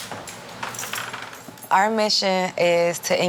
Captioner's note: door creaks